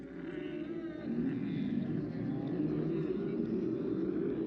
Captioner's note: camels groaning